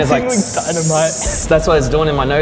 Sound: hissing sound

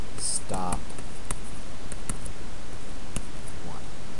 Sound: typing

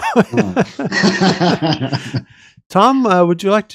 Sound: laughter

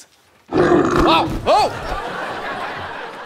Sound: growls

